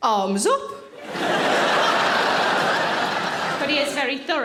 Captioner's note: audience laughing